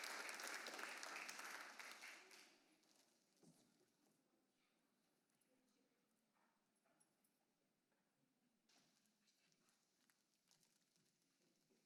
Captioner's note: applause